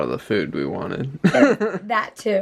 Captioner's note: laughs